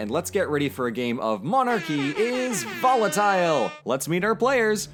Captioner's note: air horns sounding